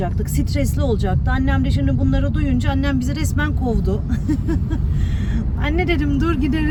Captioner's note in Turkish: kahkaha